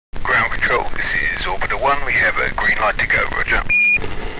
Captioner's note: radio Static